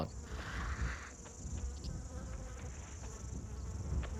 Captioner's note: flies buzzing